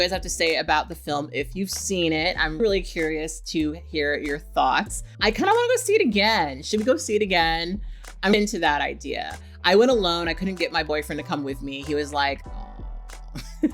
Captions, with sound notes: I would love to hear what you guys have to say about the film if you've seen it, I'm really curious to hear your thoughts. I kind of wanna go see it again, should we go see it again? I'm into that idea. I went alone, I couldn't get my boyfriend to come with me. He was like, no (laughs).